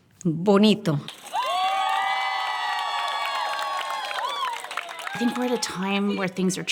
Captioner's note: cheers and applause